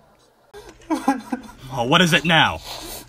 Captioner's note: distant Crying